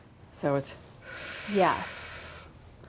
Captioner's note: inhales